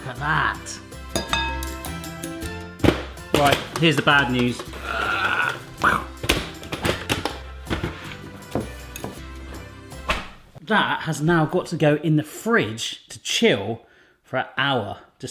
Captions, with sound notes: Look at that. (banging) Right here's the bad news. Ah, phew. (clanking) That has now got to go in the fridge to chill for a hour,